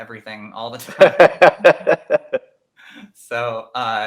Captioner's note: interviewer laughing